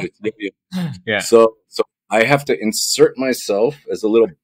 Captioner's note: laughing